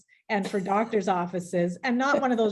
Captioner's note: laughing